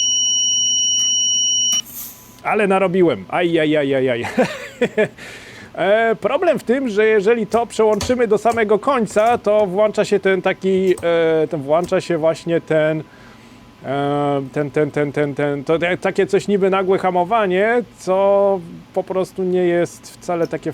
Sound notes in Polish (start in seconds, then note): 4.2 śmiech